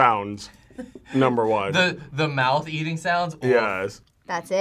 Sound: laughs

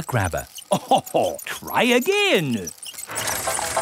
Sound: chuckles

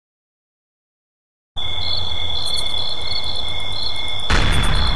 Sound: crickets jumpscare

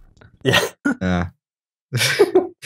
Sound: laughs

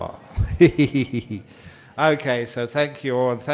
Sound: Ajahn laughs

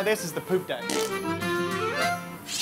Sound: rude sfx

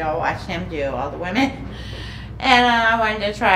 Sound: chuckling

